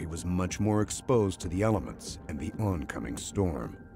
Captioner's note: voiceover